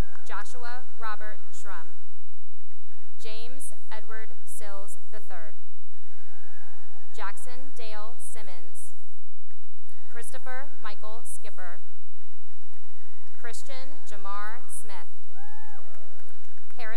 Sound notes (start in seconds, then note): 2.2 applause; 6.0 cheering; 9.1 cheering; 12.2 cheering and applause; 15.2 cheering and applause